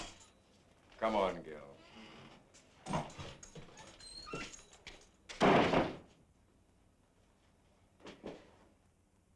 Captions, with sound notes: - Come on, Gill. (door slams)